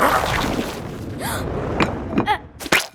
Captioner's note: gasping; butter splattering